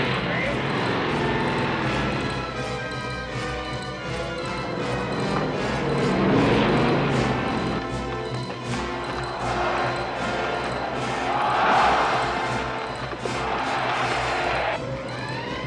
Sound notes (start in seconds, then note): 10.5 crowd chanting "olé"